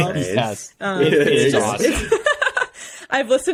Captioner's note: laughing